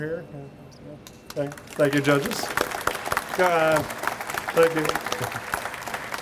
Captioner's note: audience applauds